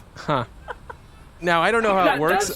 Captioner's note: Dar laughs